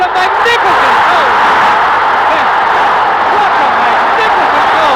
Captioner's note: crowd roaring